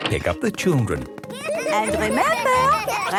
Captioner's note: laughter